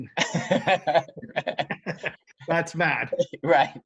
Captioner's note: laughs